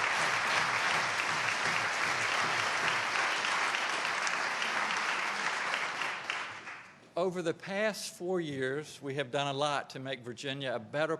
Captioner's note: applause